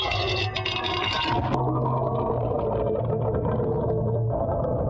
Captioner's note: water bubbling